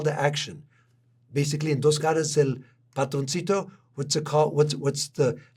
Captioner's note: spanish